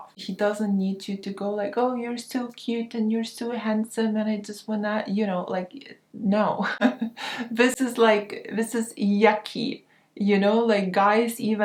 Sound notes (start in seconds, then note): 6.7 chuckles